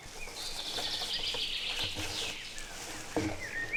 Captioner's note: birds chirping